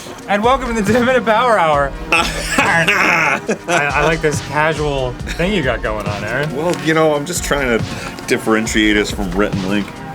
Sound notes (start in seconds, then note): 2.0 giving determined laughter